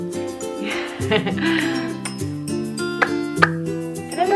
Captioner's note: gentle music; lips smacking